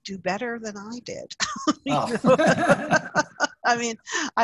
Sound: laughter

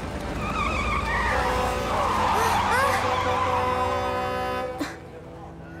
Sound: honking

